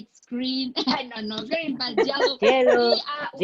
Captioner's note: laughing